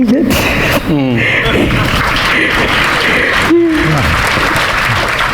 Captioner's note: audience applauding